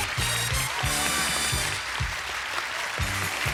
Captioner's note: applause